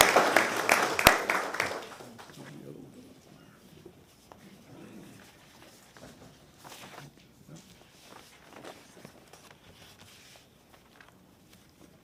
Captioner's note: applause